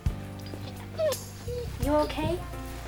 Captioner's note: dog whines